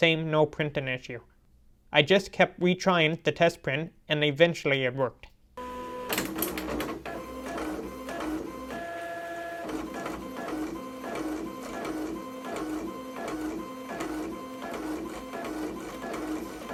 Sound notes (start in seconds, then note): 5.6 happy Printer Noises